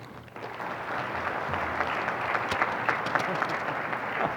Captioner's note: audience applauding